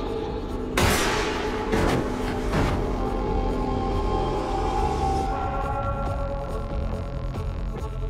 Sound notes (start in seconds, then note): 0.8 gun shoots